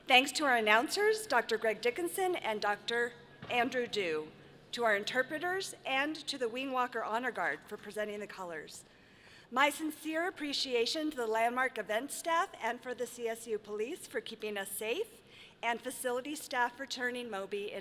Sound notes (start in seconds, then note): none